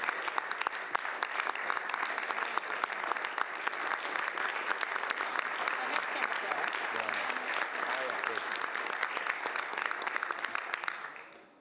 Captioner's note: some Applause